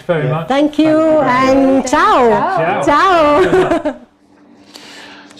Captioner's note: laughs